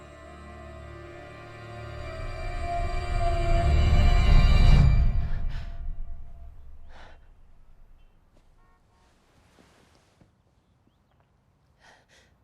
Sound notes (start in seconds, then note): 0.0 foreboding eerie music; 6.8 Bryn huffing